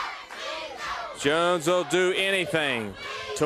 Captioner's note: crowd cheering